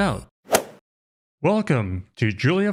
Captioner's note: golf swing sound effect